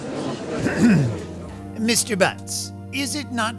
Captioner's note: ahem